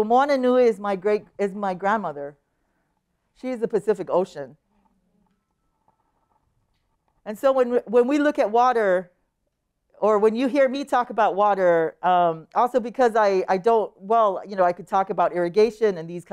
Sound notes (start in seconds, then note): none